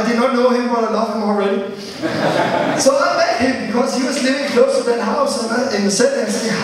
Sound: laughter

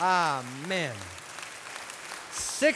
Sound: applause

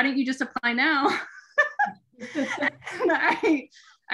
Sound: laughing

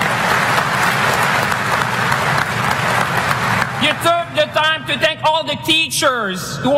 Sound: applause

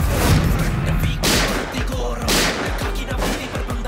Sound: gunshots

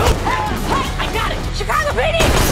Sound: gunshot

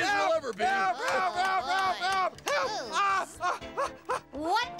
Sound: Stinky yelling and banging his cup

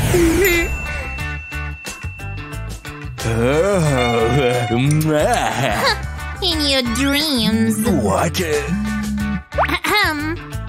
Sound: making happy sounds

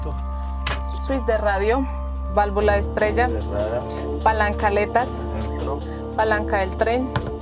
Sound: Spanish spoken audio

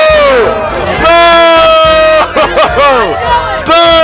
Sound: laughing

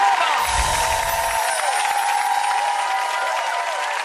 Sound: audience clapping

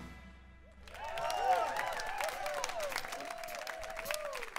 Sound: applause

